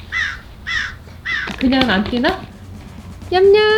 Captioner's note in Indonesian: suara bungkus snack